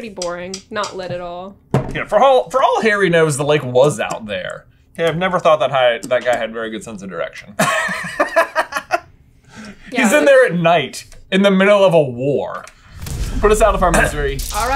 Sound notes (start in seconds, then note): 7.5 laughter